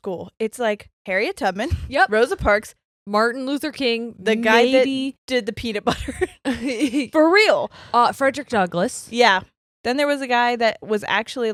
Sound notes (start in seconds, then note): 5.9 chuckles; 6.2 laughs